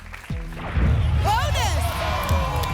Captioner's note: boom